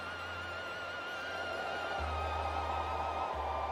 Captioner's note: wind whistles